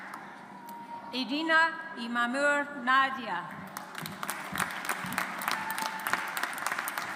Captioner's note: audience applauds